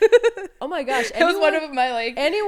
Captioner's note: laughing